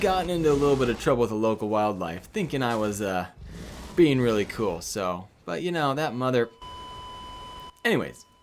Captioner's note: beep